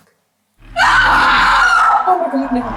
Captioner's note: Jen screams